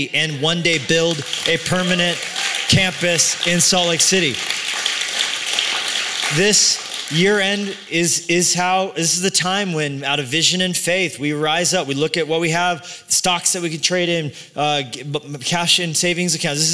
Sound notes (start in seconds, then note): 4.9 applause